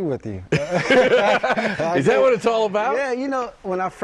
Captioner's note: laughter